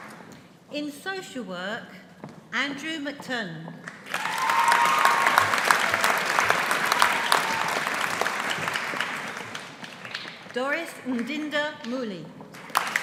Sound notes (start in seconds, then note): 4.0 audience applauding